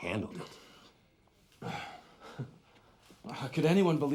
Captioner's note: exhales sharply